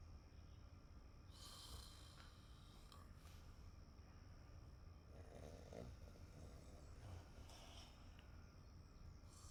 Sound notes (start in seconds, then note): 4.3 crickets chirping